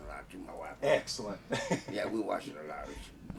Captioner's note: laughing